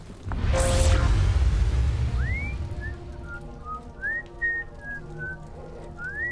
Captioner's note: whistling